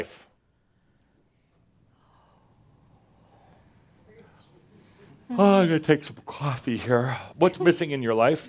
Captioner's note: slight pause and Adamus yawns